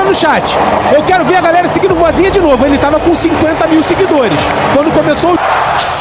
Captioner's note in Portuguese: grito